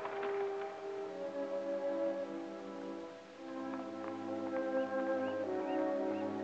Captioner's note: birds chirping; gentle music